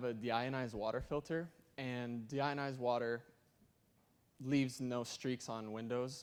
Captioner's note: none